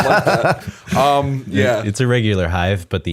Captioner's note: laughter